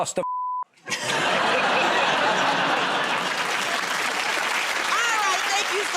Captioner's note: laughter